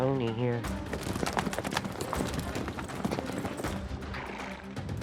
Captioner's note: hoof beats